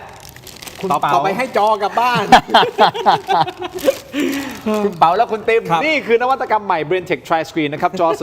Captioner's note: laughter